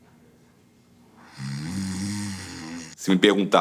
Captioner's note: snoring